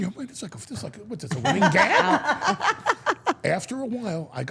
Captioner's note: Steph and Elyse laugh